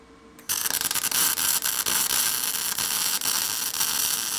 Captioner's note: electricity popping